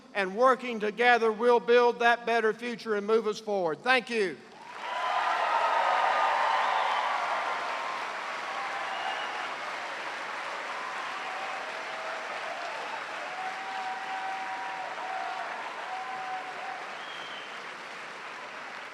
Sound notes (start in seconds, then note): 4.5 cheers and applause